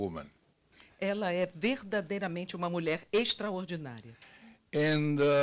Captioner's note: translator speaking Portuguese